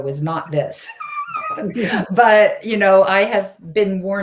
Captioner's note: laughs